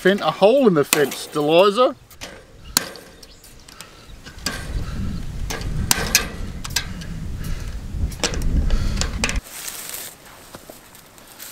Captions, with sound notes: a hole in the fence Deliza. (Wire snipping)